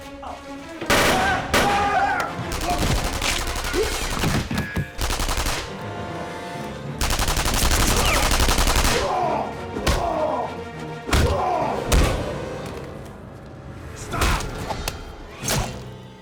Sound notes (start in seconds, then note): 1.1 screams; 2.3 rifles firing; 8.8 soldiers grunting